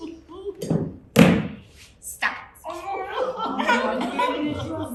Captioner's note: audience laughter